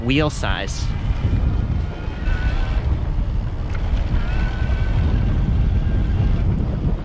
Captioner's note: wind blowing